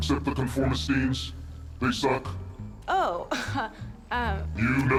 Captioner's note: chuckles